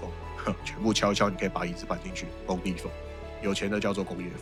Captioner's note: in a construction site style